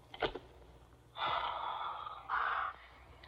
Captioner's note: sighs